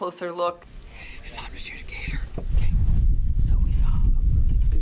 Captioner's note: whispering